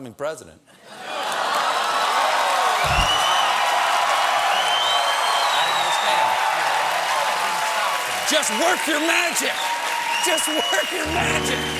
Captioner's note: cheers and applause